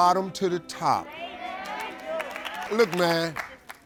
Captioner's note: crowd cheering